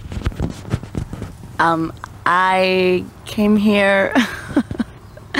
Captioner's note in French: rire gêné